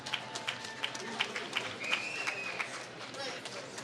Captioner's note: applause